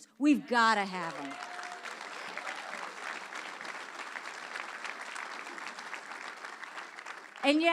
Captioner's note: audience applause